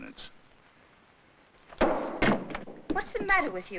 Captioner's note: bottle bangs